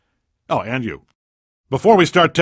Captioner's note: pause